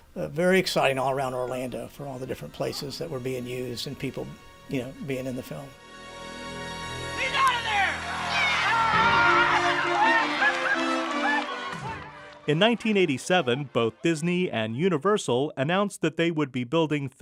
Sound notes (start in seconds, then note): 10.0 cheering and applause